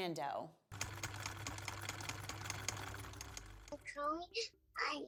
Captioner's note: typewriter keys clack